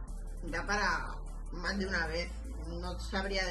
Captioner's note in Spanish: none